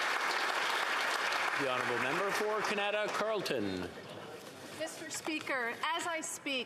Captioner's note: applause